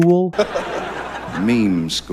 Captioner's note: audience laughs